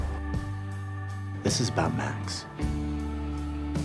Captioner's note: voiceover